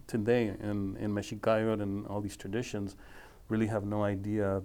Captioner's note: speaking foreign language